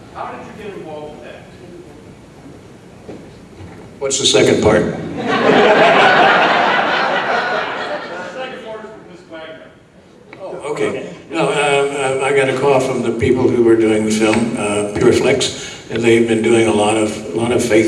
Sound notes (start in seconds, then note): 5.1 audience laughing